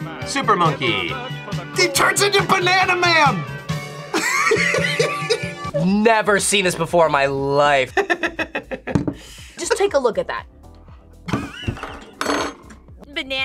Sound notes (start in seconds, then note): 4.1 laughs; 7.9 laughs; 12.2 laughs